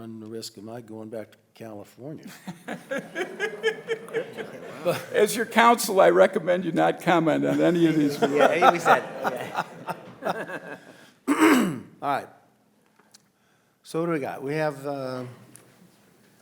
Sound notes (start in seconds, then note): 2.8 audience laughing